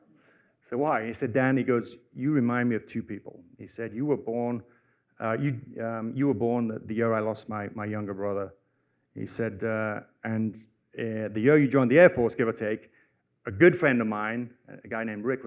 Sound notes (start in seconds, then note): none